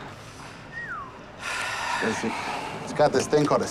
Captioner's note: whistles